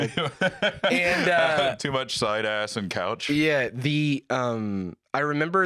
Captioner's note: laughs